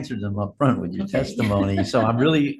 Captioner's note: laughs